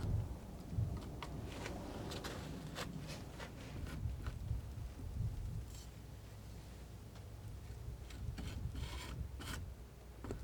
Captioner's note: scratching; scratching